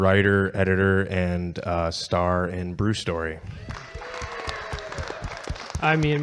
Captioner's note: audience cheering